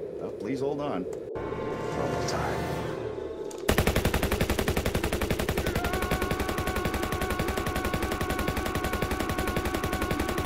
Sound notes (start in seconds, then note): 3.6 machine gun fires